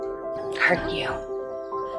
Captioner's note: voiceover